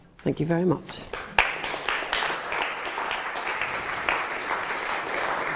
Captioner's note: applause